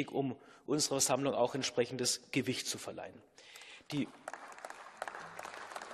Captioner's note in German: Beifall